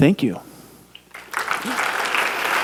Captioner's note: clapping